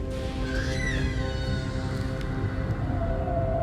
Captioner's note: cries from the deep